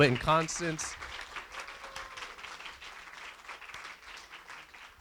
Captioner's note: applause